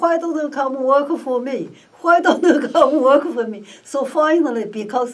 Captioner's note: laughs